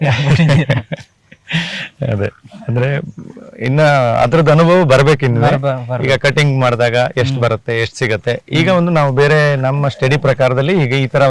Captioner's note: laugh